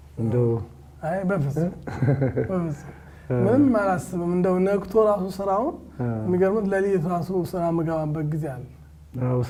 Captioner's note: laughter